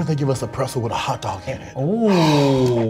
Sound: gasp

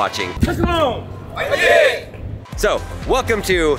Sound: cheering in Korean

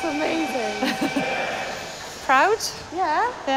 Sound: laughs

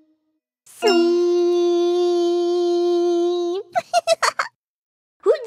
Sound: giggles

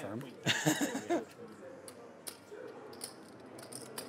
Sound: laughing

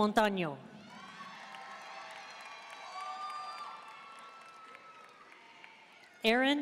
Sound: audience cheering and applauding

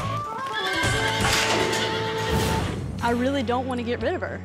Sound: horse neighs

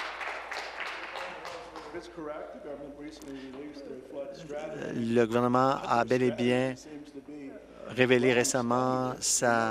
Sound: applause

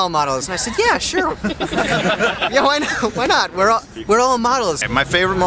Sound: laughter

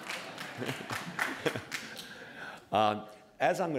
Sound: laughter, applause

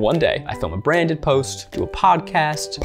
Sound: none

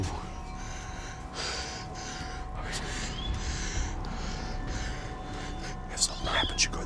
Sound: heavy breathing

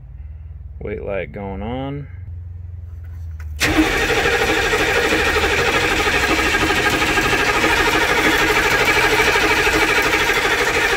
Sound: engine sounds

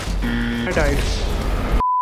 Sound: buzzer blaring

